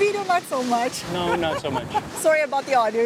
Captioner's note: laughs